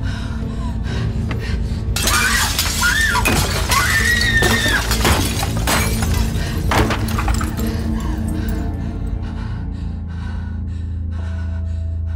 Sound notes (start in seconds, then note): 2.0 screaming, glass shattering; 9.2 shuddering